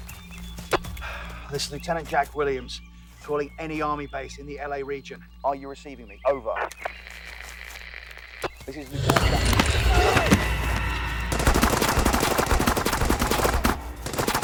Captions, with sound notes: - This is Lieutenant Jack Williams calling any army base in the LA region. Are you receiving me, over. (static buzzing) This is... (soldier groans) (gunshots blasting)